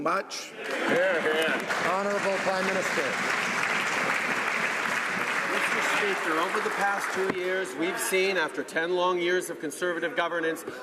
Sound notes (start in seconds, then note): 4.6 some Applause